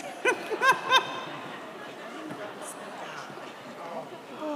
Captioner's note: all laugh